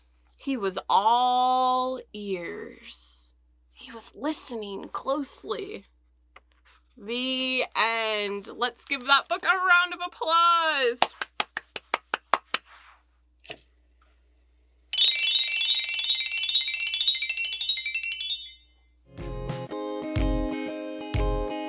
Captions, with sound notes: he was all ears. He was listening closely. The end. Let's give that book a round of applause. [bell sound]